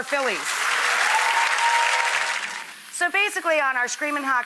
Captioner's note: audience applauds